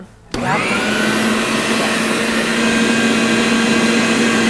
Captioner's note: grinder whirring